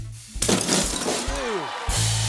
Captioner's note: cheering and applause; rimshot